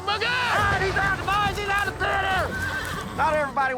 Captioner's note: crowd shouting, cheering